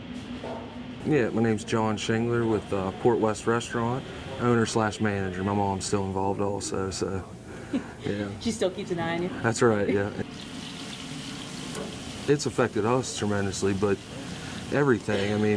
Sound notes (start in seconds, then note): 7.6 giggles; 10.2 oil sizzling